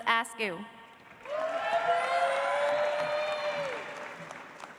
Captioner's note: audience applauds